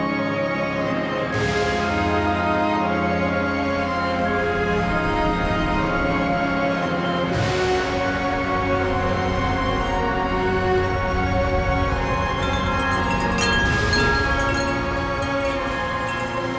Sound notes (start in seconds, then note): 3.8 whooshing; 12.1 chiming